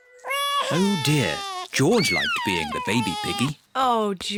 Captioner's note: bawls